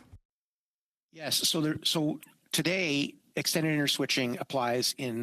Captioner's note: speaking French